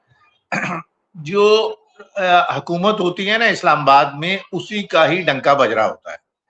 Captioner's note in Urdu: کھانسی; گلا صاف کرتا ہے